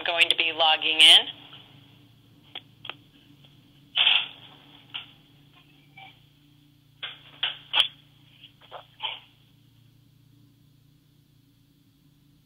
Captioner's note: pause, silence